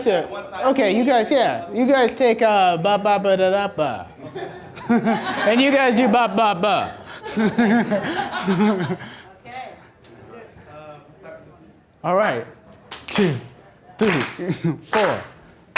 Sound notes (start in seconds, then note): 0.2 voiceover; 8.0 laughing; 9.8 voiceover; 14.9 clapping